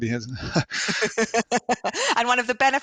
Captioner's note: laughter